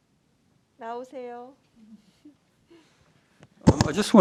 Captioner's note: speaking in Korean